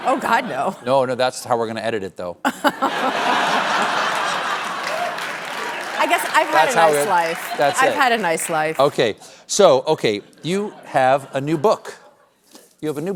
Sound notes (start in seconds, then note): 2.4 laughter